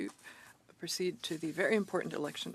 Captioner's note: speaking in French